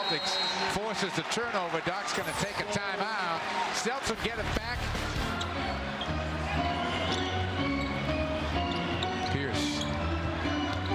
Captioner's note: buzzer